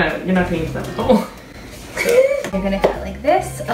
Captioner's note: laughs